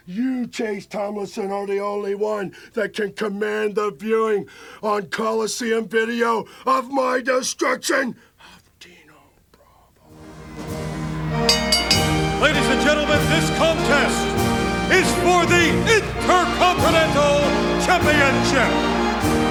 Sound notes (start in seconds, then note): 10.3 bell ringing; 10.3 upbeat music